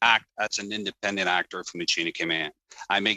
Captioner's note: speaking in french